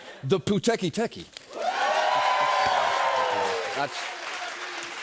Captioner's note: cheers and applause